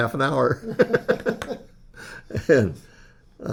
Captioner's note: laughs